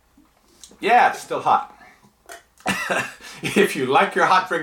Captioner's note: laughs